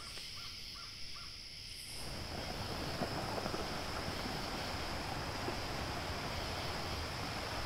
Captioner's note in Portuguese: som de corpo arrastado e som de mar